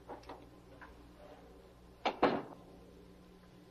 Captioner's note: door closing